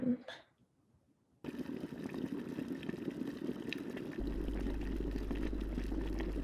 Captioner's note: water boiling and kitchen sounds throughout